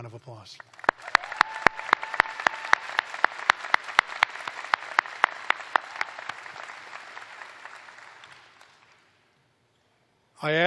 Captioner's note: applause